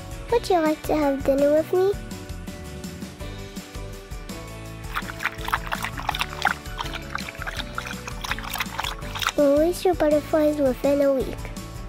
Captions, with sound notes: Would you like to have dinner with me? [drinking] Release your butterflies within a week.